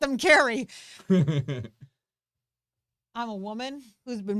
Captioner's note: laughs